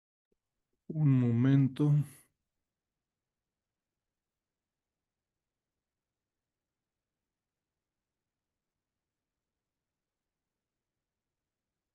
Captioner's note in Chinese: 无声音